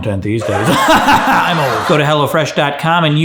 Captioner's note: laughs